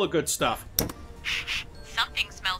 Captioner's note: sniffs twice